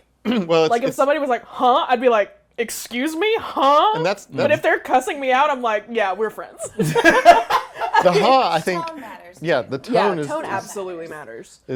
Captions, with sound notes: If somebody was like, huh? I'd be like, excuse me? Huh? But if they're cussing me out, I'm like, yeah, we're friends. (laughs) - Tone matters. - Yeah, tone absolutely matter.s